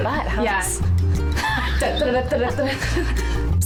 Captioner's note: laughing